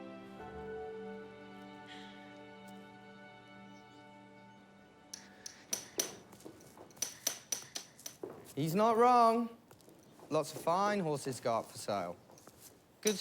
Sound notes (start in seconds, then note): 0.0 gentle music; 5.1 hammer tapping